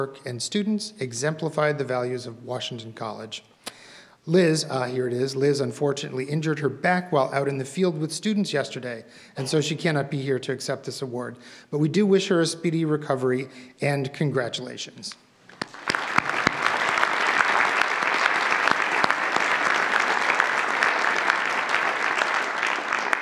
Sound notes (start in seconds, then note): 15.5 audience applauds